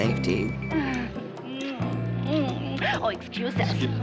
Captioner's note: soft chuckle